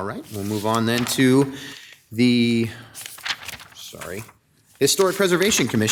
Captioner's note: page shuffles